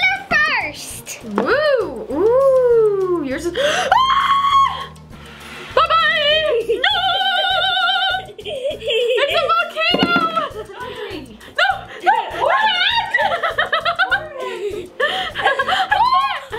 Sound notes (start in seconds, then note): 3.8 screams; 9.1 giggles; 13.0 laughs